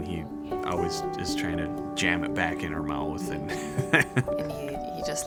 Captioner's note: laughs